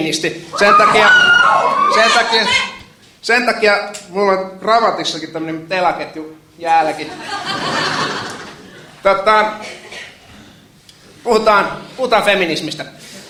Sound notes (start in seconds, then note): 0.5 cheers